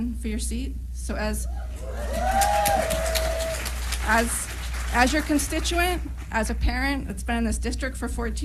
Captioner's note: applause